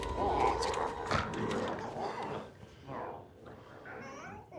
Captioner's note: glowzies growling